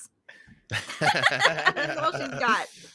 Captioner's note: group laughs